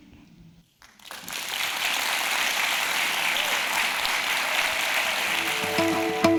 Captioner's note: applause